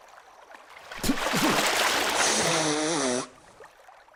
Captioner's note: splutters